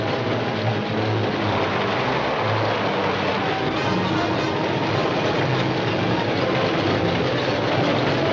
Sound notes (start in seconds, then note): 1.5 train clacking